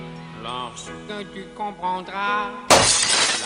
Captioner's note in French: Musique sirupeuse aux claviers; voix nasillarde horrible; GROSSE chute + verre brisé